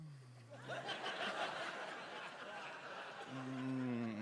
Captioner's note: laughter